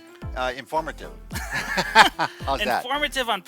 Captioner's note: both laughing